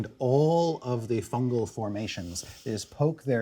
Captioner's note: none